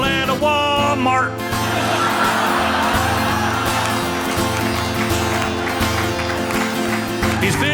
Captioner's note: audience cheering